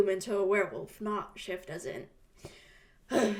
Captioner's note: sighs